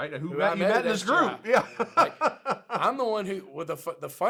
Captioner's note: laughs